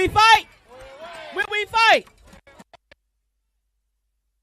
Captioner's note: cheering and applause